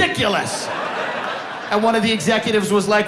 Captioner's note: audience laughing